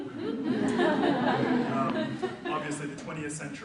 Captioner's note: audience laughs